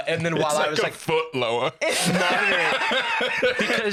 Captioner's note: laughs